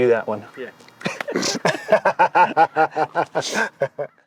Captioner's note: both laughing